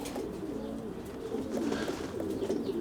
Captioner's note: pigeons cooing